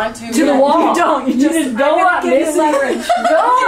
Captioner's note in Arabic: يضحك